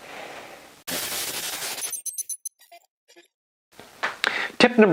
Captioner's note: electronic beeping